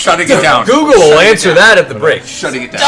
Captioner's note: shouts